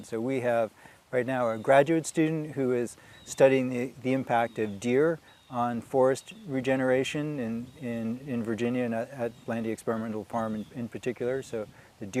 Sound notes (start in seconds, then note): none